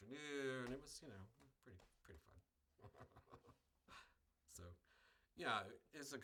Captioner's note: laughs